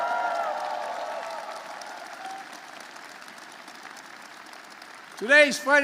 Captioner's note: applause